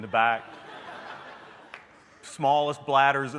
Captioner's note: laughter